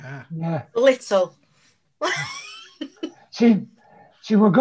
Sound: laughs

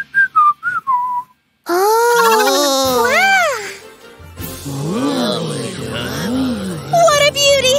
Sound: whistles; enthusiastic hum

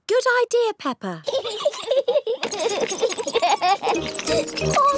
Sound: both giggling

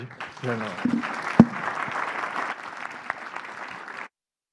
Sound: applause

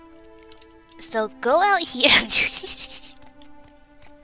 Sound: laughs

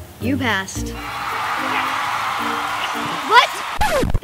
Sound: cheering

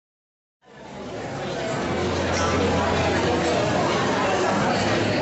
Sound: audience chattering

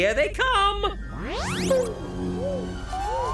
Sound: space sounds; upbeat music

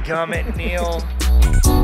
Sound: upbeat music; laughing

